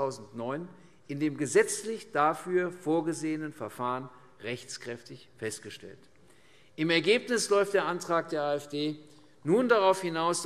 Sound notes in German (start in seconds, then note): none